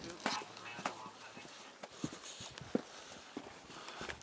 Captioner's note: Arabic spoken audio